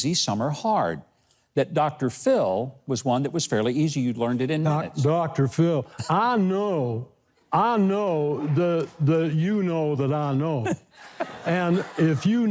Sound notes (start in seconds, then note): 8.2 audience laughing; 11.0 Mike and audience laughing